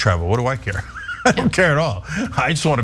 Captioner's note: laugh